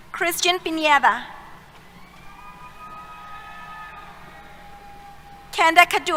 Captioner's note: cheers